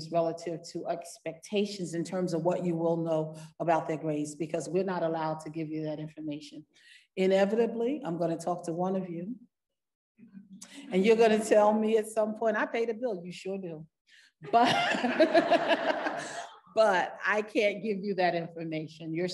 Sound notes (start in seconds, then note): 14.5 laughing